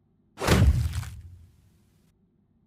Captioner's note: whack